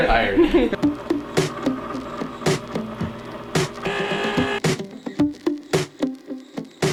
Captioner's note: machine running; upbeat music